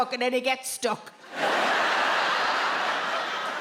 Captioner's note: audience laughs